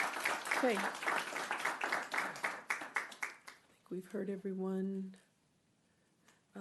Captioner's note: clapping